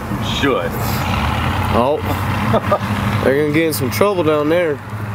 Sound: guy chuckles

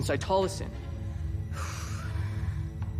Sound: sighs

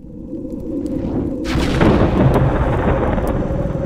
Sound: thunder, growling noises

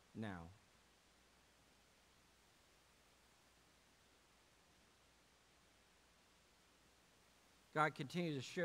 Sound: moment of silence for personal prayer

